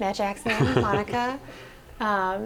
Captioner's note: laughter